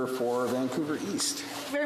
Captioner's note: speaking in French